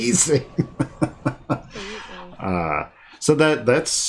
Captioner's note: laughing